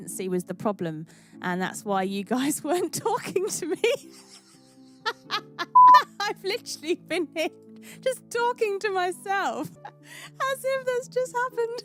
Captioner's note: laughs